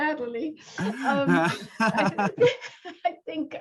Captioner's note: laughter